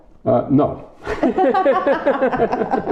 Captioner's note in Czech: Smích